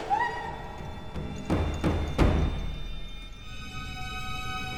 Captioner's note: Kristen screams